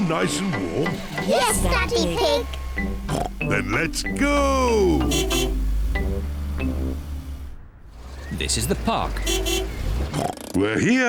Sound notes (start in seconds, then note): 4.7 car horn honks